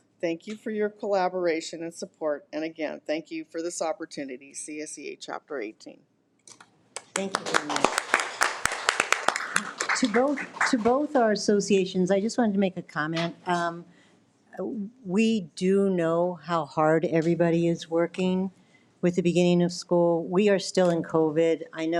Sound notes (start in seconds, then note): 6.9 all applauding